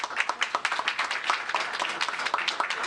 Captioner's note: applause